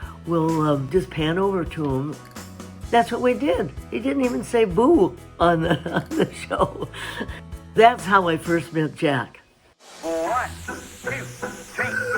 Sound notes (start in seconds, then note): 5.7 chuckles